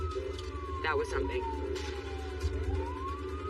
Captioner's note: siren wailing